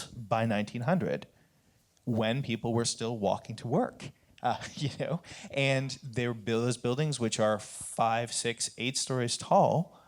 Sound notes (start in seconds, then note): 4.6 chuckle